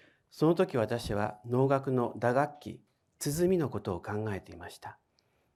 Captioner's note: speaking in foreign language